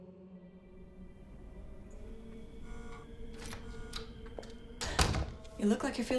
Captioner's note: door opens